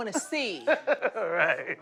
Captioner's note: laughs